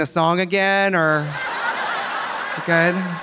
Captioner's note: audience laughing